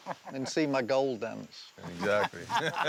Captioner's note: laughter